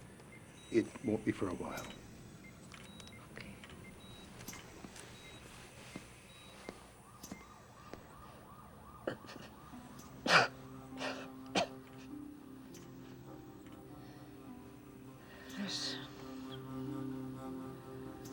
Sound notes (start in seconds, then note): 9.3 coughs; 15.2 murmuring